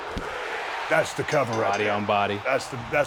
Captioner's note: audience cheering